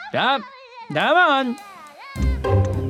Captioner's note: speaks in another language